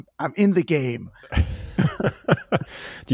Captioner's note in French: Rires